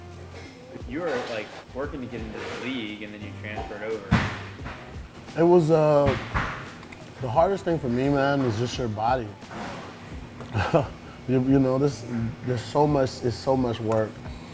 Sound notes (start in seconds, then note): 10.4 laughs